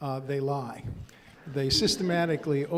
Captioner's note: crowd laughs